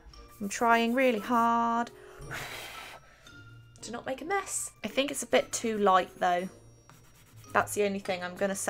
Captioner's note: blows